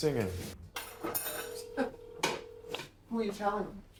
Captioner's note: call ringing